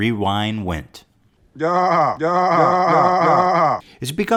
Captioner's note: Will Smith groaning